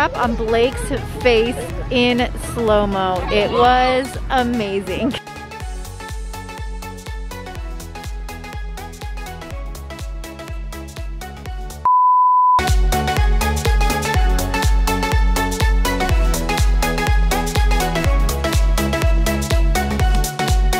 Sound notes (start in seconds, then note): 6.2 upbeat techno music continues; 11.8 beep